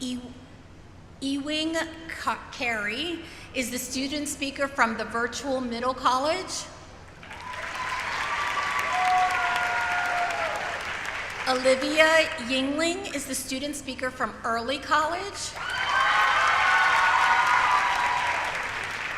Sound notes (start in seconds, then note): 15.6 applause